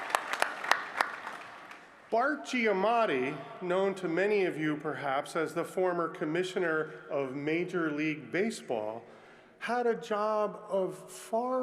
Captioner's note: applause